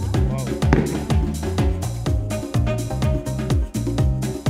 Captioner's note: upbeat music; firework bangs